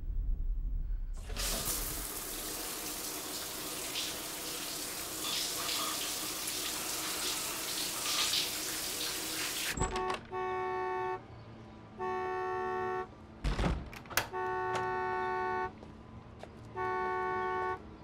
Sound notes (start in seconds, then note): 0.0 eerie music; 9.7 car horn honking